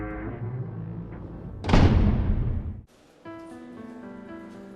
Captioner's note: door slam